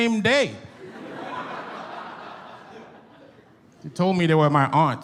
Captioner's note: audience laughs